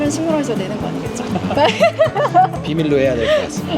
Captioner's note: laughter